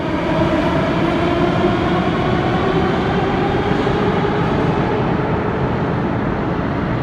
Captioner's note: train leaves to next station